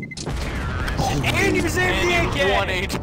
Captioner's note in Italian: chiacchiere eccitate